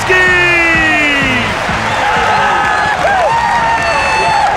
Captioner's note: cheering and applause